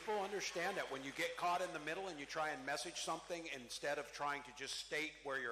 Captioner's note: cheering